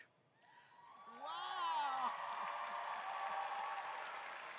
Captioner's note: applause